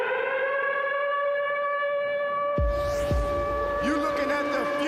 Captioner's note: siren